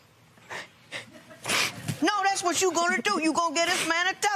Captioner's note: chuckles, sniffles